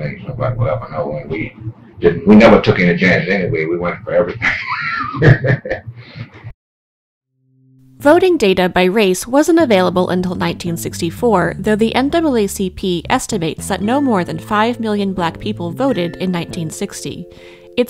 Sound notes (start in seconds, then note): 4.6 laughs